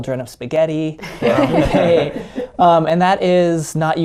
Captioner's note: everybody laughing